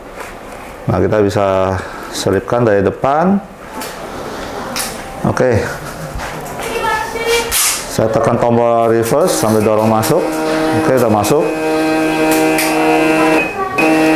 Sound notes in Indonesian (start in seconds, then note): 8.0 suara mesin printer